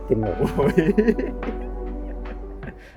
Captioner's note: laughing